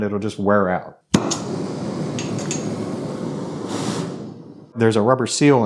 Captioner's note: torch whooshing